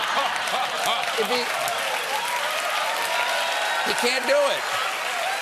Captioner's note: cheers and applause